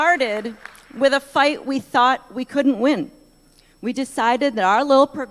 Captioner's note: applause